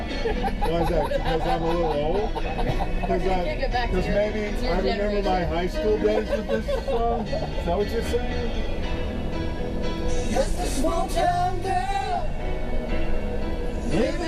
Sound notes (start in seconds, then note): 5.9 laughter